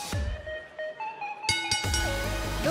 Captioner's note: bell ringing